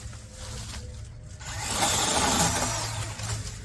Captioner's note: chainsaw revs